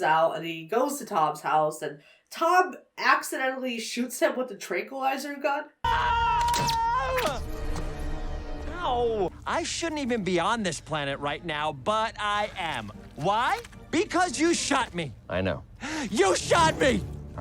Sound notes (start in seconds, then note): 5.8 Tom and Sonic screaming; 6.5 dart whooshes